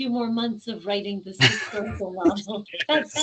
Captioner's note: laughing